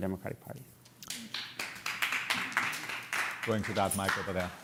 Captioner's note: applause